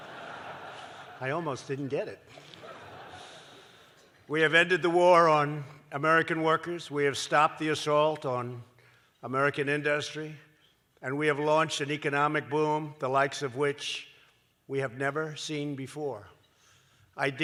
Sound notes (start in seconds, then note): 2.3 laughter